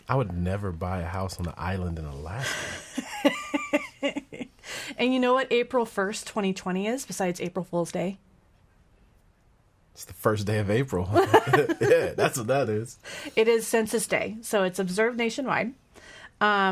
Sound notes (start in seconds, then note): 3.1 laughing